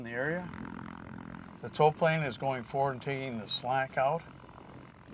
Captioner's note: propeller buzzes